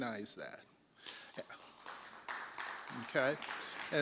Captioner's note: applause